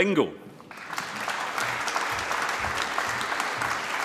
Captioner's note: applause